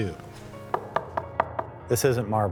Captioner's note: hand knocking